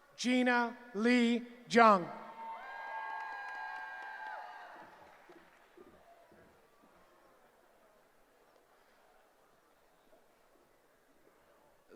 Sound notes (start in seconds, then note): 2.2 cheering